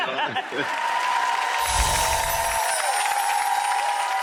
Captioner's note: laughter; cheering